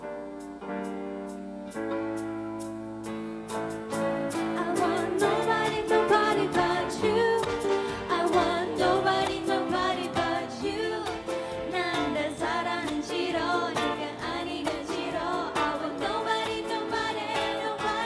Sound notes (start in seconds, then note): 3.5 singing; 10.5 korean